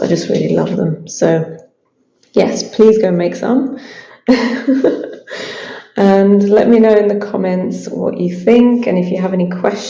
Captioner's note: laughs